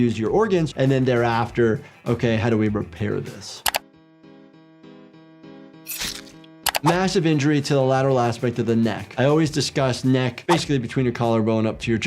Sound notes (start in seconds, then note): 3.1 pensive music; 3.6 mouse clicking; 5.3 blade rasping; 5.8 blood squelching